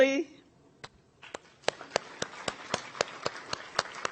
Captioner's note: audience applauds